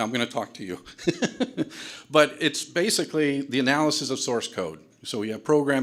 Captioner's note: laughs